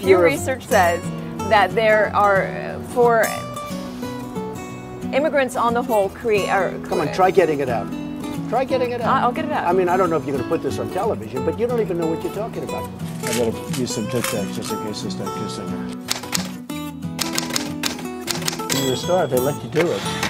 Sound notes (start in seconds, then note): 17.2 typing sounds